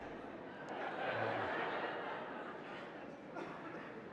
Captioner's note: audience laughing